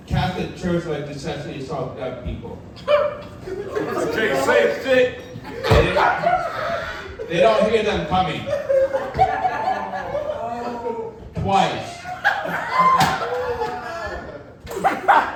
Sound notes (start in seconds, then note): 2.8 audience laughing; 8.4 audience laughing and groaning; 11.8 audience laughing